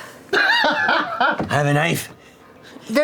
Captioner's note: laughs